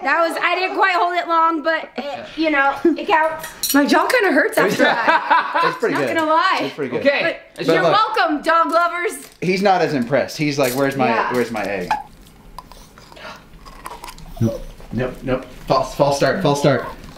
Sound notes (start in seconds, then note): 13.5 crunches